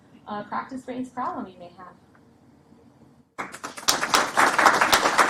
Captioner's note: applause